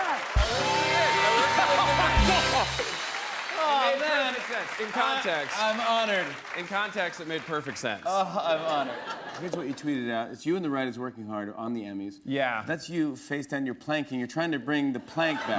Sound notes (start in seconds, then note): 0.2 rimshot; 8.3 laughter